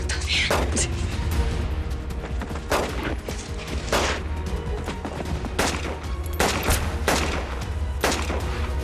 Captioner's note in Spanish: Disparos